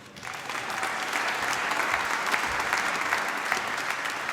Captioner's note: applause